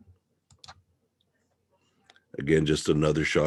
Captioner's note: mouse clicking